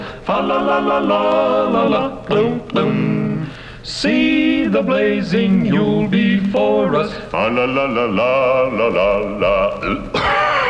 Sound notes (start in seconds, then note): 2.4 gulp twice